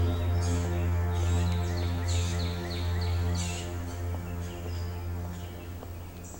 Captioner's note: ominous music; birds singing